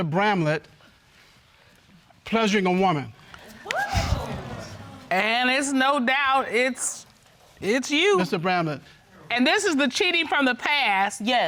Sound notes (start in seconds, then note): 3.5 audience gasps